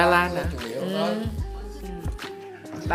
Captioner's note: mmms in agreement